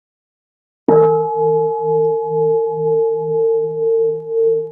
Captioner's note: bell